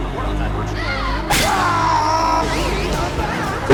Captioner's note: screaming